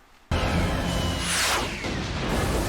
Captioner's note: high-pitched whirr; whoosh; multiple large explosions